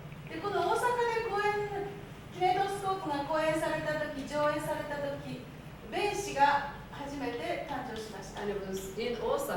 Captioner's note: speaking Japanes